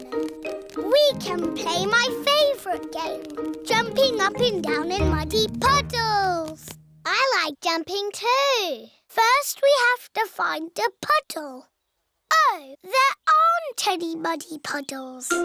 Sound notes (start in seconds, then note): none